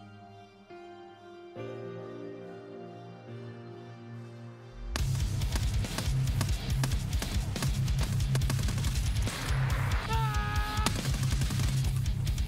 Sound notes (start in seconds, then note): 9.9 maniacal screaming